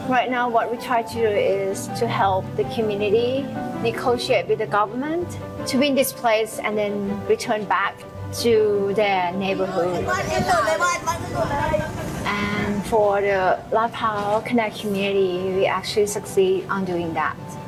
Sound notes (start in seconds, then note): 9.3 chatter